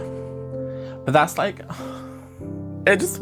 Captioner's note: exhales